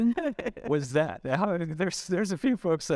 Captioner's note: chuckling